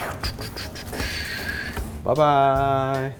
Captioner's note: exhaling a beat